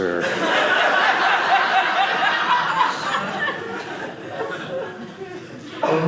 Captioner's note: audience laughing